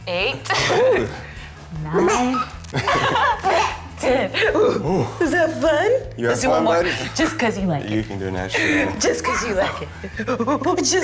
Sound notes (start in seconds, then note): 2.5 baby giggles